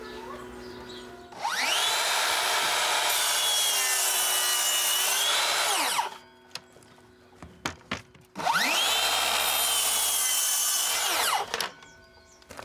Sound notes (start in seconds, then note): 1.2 buzzing